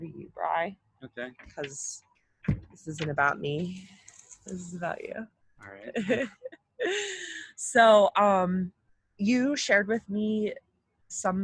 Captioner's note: laughing